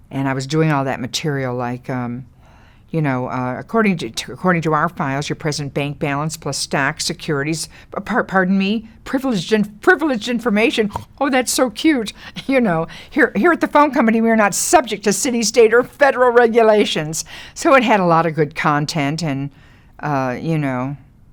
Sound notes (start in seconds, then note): 10.8 Lily laughs